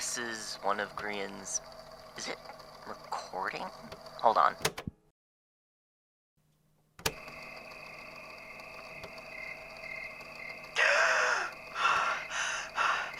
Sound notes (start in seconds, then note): 7.0 click; 9.1 background forest ambiance